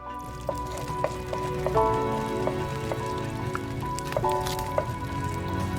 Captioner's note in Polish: odgłosy mieszania w garnku i jedzenia